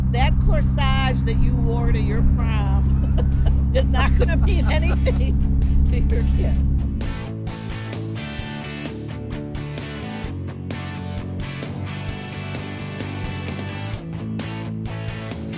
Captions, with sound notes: That corsage that you wore to your prom (laughs) is not gonna mean anything to your kids. (upbeat music)